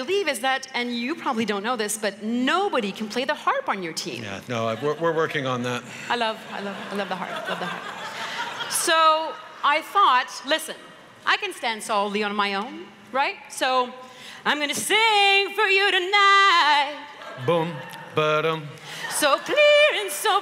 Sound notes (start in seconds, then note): 6.4 laughter